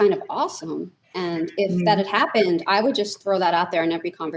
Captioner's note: laughs